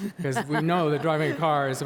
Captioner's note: laughing